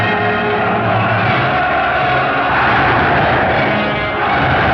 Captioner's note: loud cheering